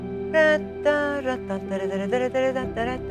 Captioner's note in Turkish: melodiyi mırıldanır